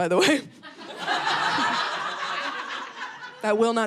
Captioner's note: audience laughing